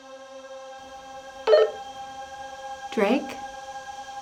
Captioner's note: walkie-talkie dings